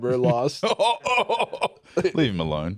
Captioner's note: laughing